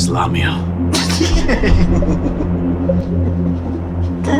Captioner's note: Gaunt Man laughs